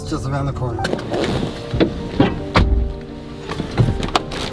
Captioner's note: van door slams shut; backpack rustling